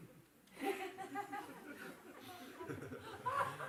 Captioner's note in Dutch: gelach